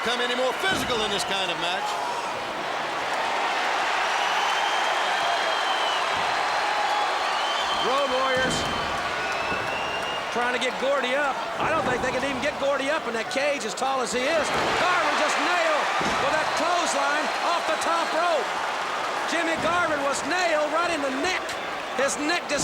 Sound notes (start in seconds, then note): 6.5 applause